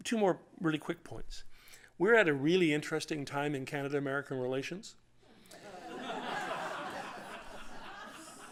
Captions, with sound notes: Two more really quick points. We're at a really interesting time in Canada-American relations. [LAUGHTER]